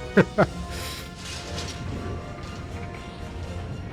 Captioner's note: laughs